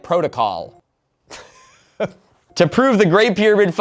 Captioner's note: laughs